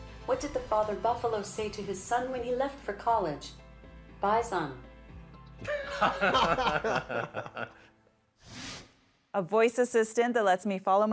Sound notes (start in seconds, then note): 5.7 laughing